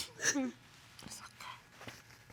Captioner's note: sobbing